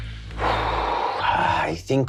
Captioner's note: sighing